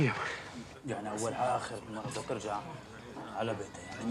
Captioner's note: they chatter in arabic